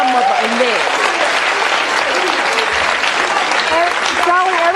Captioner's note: audience applauding